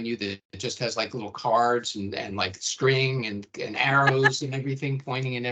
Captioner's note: laughing